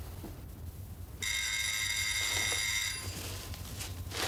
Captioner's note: door bell